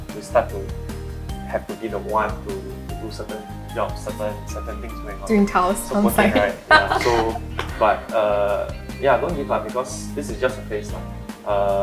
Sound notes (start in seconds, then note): 8.7 laughs